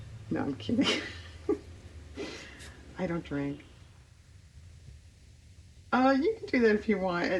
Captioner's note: laughs